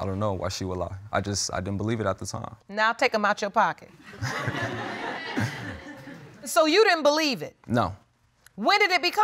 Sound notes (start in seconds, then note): 4.1 audience laughing